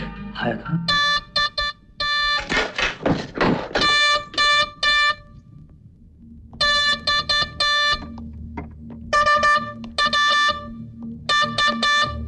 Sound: horn blares

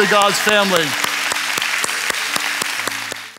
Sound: audience clapping

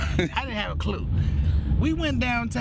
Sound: laughing

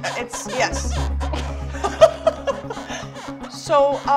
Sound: laughs

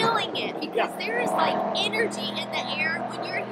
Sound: car passing

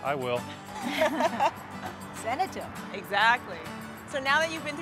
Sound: laughter

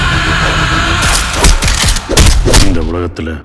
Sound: sound of fist fighting

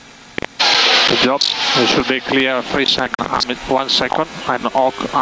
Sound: feedback

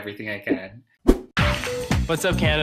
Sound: whoosh

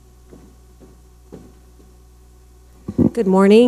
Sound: footsteps tapping

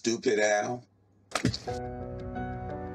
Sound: injection thump

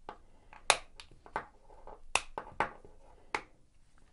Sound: snapping

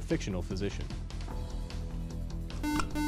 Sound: buzzer

